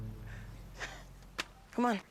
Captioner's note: laugh